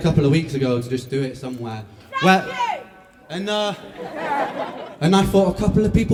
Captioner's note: laughter